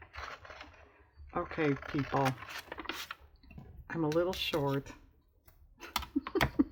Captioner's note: laughs